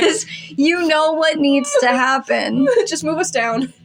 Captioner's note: whimper; laughing